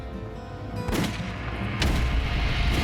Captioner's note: tense music; gun firing